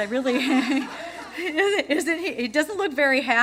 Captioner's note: laughter